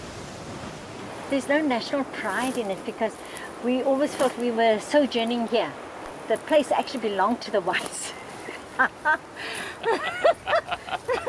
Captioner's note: laughs